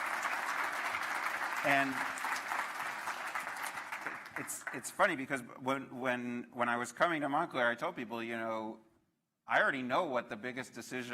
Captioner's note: applause